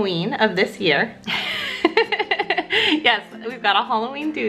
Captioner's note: laughs